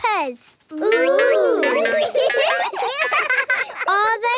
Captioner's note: laughing